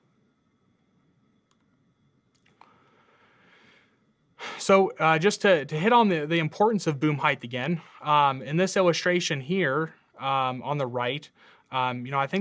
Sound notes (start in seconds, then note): 1.5 computer mouse clicking